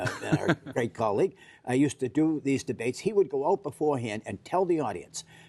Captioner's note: laughter